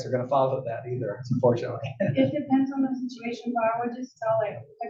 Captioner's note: laugh